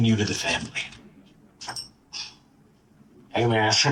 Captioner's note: background office noise